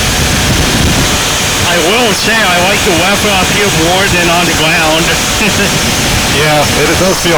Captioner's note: laugh